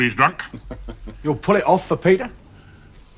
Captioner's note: man laughs